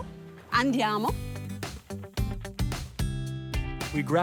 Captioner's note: speaking in foreign language